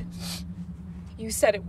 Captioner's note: Tyler sniffs